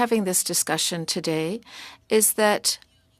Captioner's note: speaking French